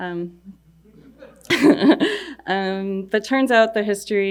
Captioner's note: laughing